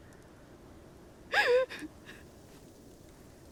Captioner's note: sobbing